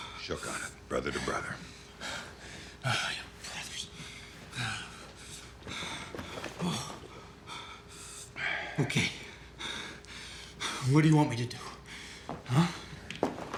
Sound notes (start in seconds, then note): 5.3 Danny panting; 9.8 panting